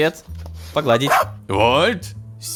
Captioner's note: robot dog bark